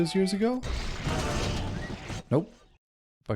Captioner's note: body explodes